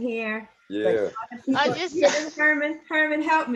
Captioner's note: laughter